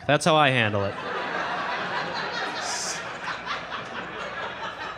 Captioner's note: audience laughing